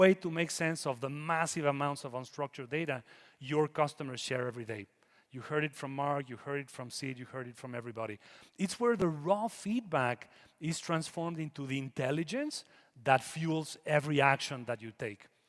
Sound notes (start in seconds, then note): none